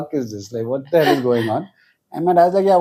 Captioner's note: laughs